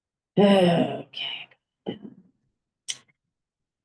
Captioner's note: grumbles